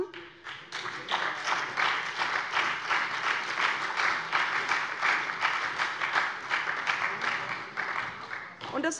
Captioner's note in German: Beifall bei der SPD und der FDP